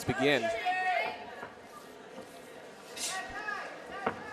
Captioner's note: audience cheering